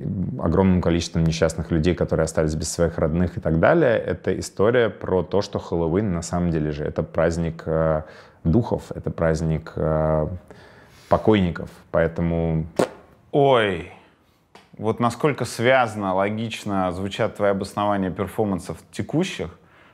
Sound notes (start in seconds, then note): 12.3 blows raspberry sharply